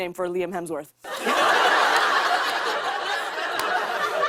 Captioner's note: laughter